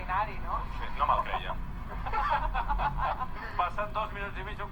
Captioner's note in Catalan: carcajadas